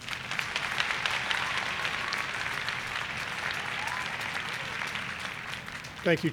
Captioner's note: applause